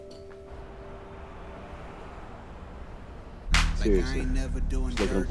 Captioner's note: traffic humming